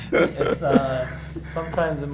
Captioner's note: laughter